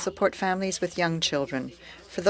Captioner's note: speaking French